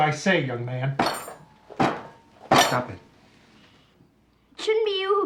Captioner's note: banging